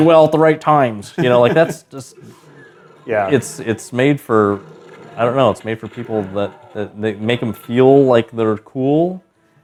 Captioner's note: laughter